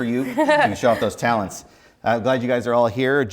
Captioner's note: laughs